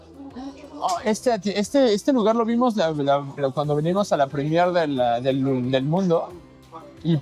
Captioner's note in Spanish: risas